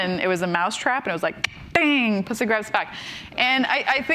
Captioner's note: clicks